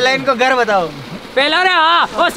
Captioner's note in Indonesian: Suara turbin